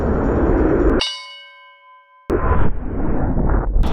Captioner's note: ding